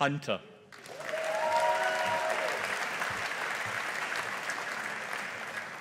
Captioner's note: audience applauding